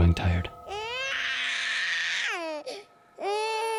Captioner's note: baby cries